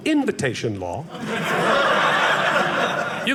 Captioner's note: audience laughing